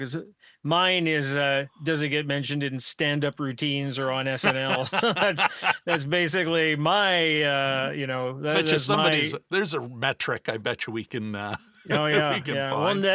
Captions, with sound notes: Because mine is, does it get mentioned in standup routines or on SNL? (laughing) That's basically my, you know, that is my- There's a metric I bet you we can find.